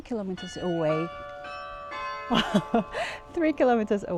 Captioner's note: church bell rings